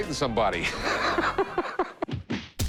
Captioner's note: laughs; french music